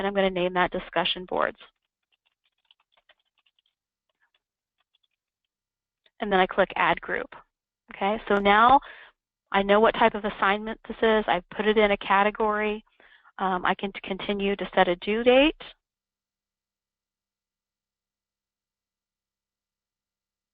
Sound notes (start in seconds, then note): 2.1 computer keyboard keys tapping